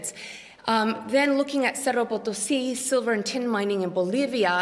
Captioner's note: non-english